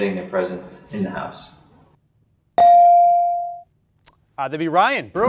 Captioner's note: bell dings